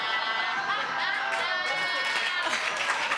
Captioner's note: audience laughing